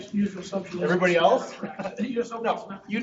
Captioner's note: laughing